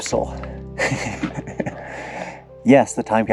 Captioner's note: laughter